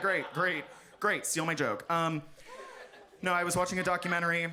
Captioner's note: audience laughs